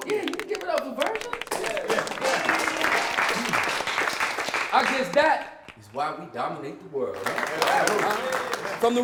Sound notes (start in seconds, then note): 1.7 applause; 7.1 applause